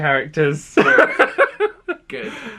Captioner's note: laughing